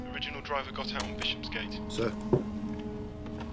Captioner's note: man over phone